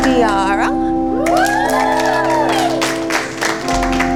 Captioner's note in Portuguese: Aplausos